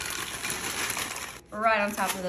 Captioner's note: chips falling